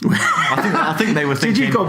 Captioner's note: laughs